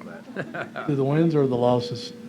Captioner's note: laughs